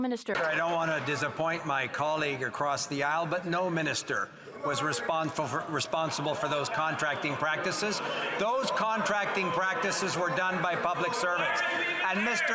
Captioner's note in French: voix de l'interprète